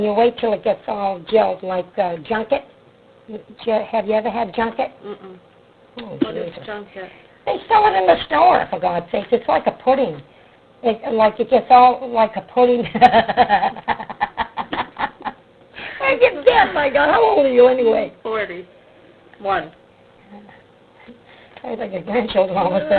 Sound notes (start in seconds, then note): 12.9 laughs